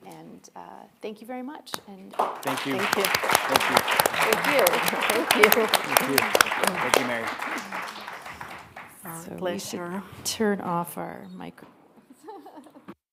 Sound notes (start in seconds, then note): 3.5 audience applauds